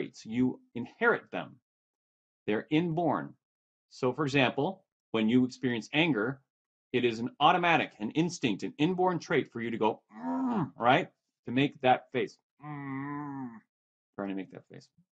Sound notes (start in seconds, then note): 10.1 grunts; 12.6 grunts